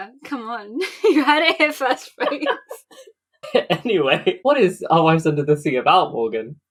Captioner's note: laughing